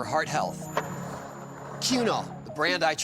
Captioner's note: skateboard wheels roaring